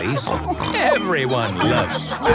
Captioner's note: snorts